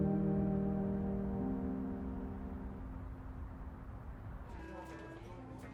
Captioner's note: distant traffic humming; patrons chattering over pleasant easy listening music